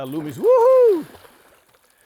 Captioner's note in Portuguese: grito animado